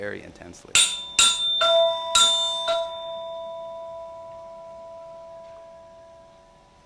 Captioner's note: Vibra-Tone clanking and resonating